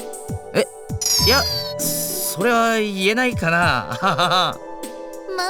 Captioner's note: very awkward laugh